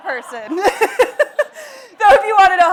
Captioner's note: laughs